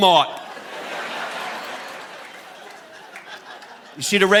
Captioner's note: audience laughing